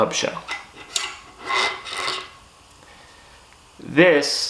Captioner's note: metallic threads scraping